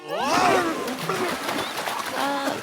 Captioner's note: grunting; splash